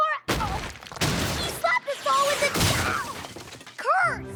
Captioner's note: thud! slam!; crash!